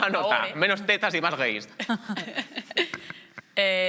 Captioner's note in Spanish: algunos ríen